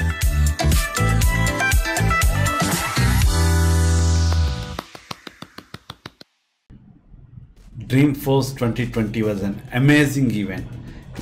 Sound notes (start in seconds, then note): 0.0 upbeat music; 4.2 clapping